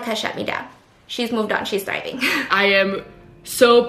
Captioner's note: laughs